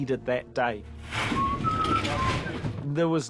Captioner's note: whistling